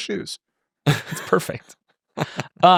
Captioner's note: laughing